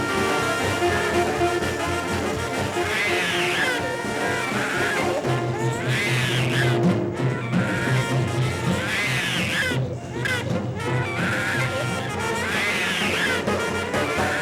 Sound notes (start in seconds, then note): 3.9 baby crying; 10.3 frantic percussive jazz music